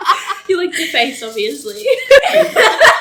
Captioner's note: everyone laughs; laughs